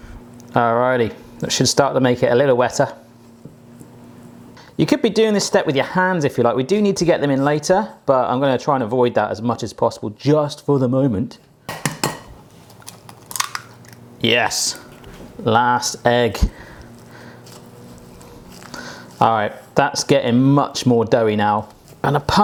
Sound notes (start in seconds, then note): 0.0 cracks egg; 12.6 cracks egg